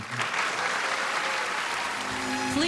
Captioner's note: cheering and applause